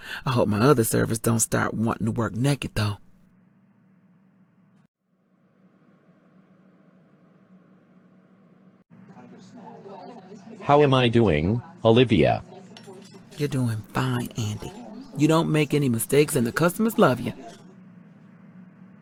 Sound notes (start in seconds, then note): 9.3 diner background sounds